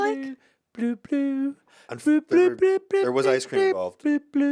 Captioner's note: Ian hums